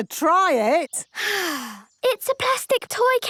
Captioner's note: sighs